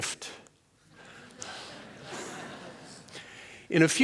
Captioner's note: laughter